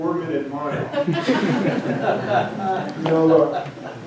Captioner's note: audience laughing